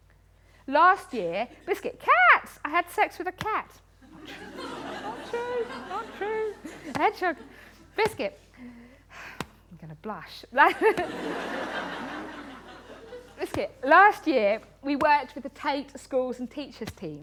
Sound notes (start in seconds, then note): 4.0 laughter; 8.6 sighs; 10.6 laughter